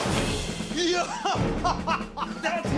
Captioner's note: dramatic music; laughing